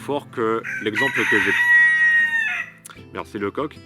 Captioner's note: rooster Cries